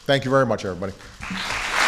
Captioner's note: applause